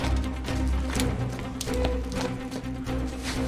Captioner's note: panting